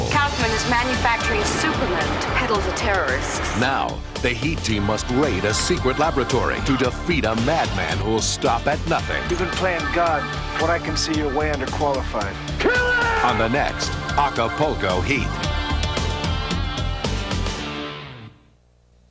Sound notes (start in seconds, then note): 0.0 voiceover; 3.8 voiceover; 14.0 voiceover; 16.3 exciting music